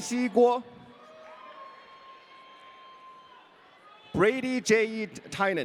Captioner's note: audience cheering